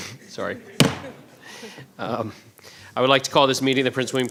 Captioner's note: bang